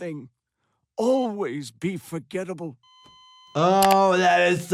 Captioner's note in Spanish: monitor pitido